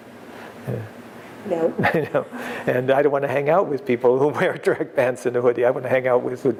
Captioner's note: laughter